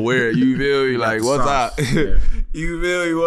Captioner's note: chuckles